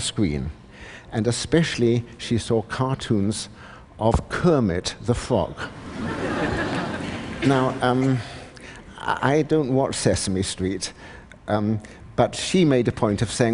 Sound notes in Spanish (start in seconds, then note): 5.8 Risas